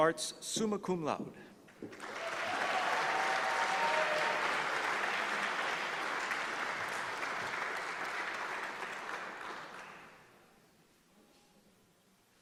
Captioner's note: applause